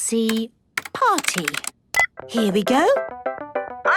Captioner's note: beep